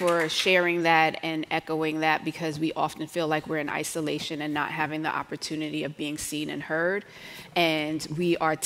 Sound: applause

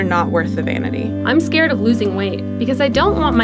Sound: voiceover

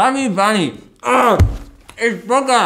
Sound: moans

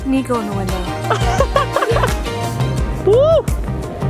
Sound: laughing

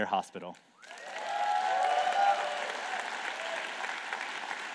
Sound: applause

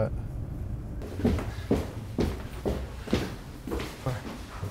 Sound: footsteps creaking

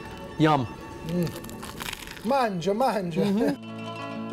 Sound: crunch

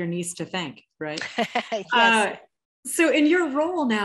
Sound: laughs

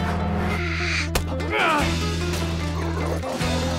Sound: GRUNTlNG

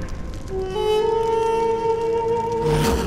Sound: fire crackles

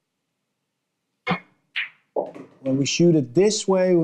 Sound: balls clanging

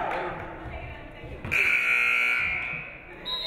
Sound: buzzer buzzes; referee whistles

